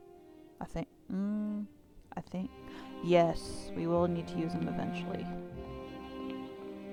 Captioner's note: gasp